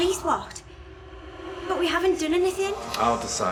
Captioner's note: voices echoing